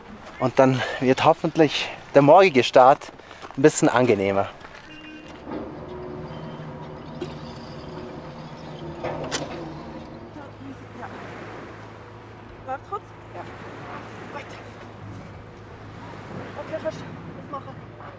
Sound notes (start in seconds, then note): 12.2 in Swiss German